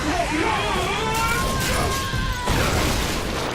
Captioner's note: all exclaiming